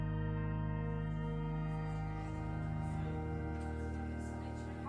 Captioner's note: chatter